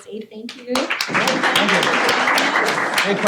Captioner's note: applause